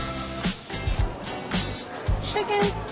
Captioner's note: sizzling